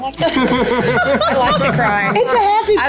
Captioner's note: everybody laughing